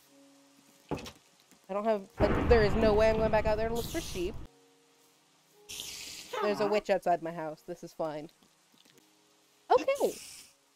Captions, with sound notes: I don't have--there is no way I'm going back out there to look for sheep. [spider hisses] There's a witch outside my house. [witch cackles] This is fine. Okay.